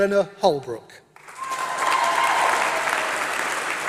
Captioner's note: applause